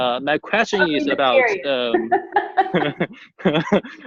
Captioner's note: laughing